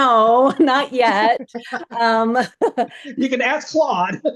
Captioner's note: laughs